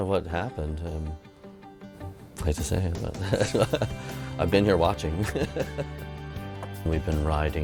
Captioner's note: laughs